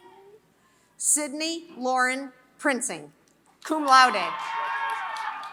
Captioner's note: applause